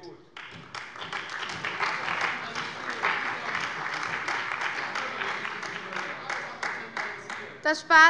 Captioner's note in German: Beifall bei der CDU und dem BÜNDNIS 90/DIE GRÜNEN